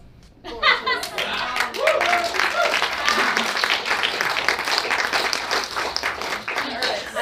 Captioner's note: audience applauding